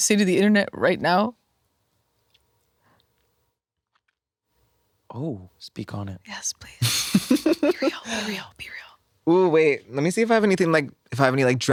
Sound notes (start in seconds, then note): 6.8 laughs